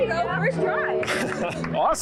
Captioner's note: claps